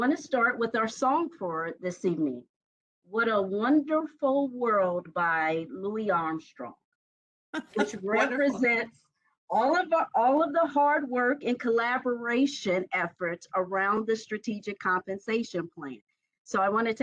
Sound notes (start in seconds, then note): 7.6 laughing